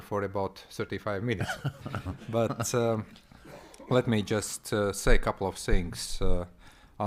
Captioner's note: chuckles